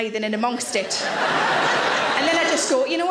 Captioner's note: audience laughing